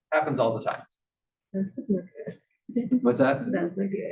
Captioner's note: laugh